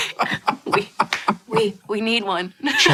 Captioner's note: laughing